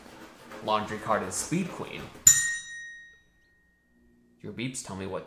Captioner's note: bell dings